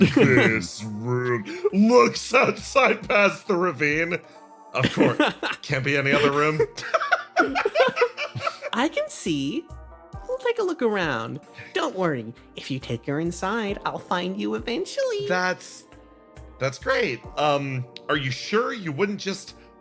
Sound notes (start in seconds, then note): 6.0 laugh